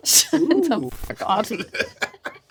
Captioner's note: laughing